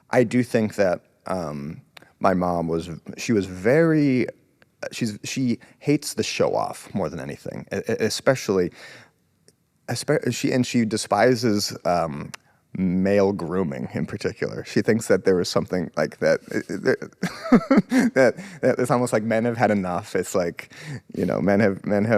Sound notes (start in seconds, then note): 16.5 laughs